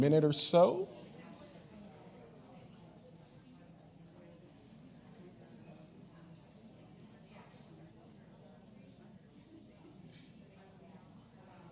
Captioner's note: classroom chatter